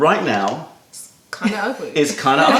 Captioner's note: laughter